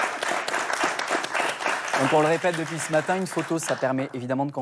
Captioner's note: applause